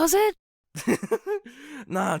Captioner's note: laughs